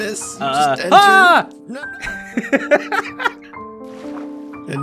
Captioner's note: laughs